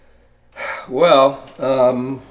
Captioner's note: exhales loudly